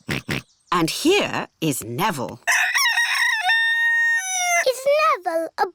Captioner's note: george oinks; rooster crows